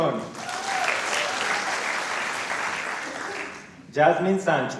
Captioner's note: applause